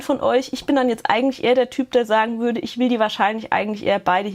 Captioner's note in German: none